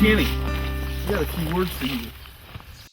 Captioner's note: birds chirp